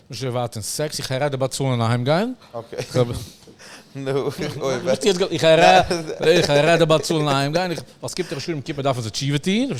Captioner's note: laughs